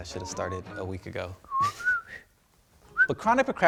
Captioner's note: chuckling; whistling